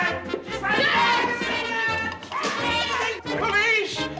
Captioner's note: screams, great confusion